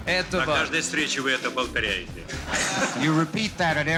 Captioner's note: speaking foreign language